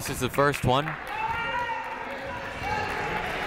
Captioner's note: crowd clapping; people shouting in the crowd